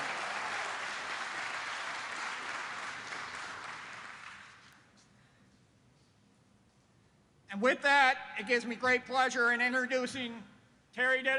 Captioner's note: applause